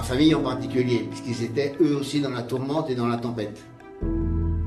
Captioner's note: speaking in French